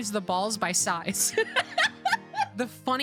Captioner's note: laughter